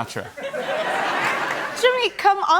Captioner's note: laughter